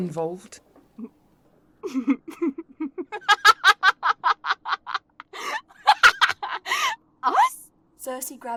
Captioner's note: Cerci laughs